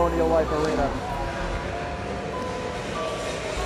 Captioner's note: crowd noise; suspenseful music